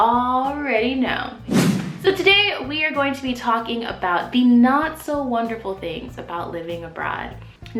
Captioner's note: swoosh